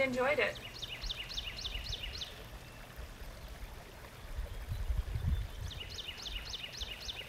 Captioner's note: birds chirp